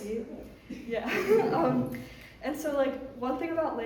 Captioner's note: laughs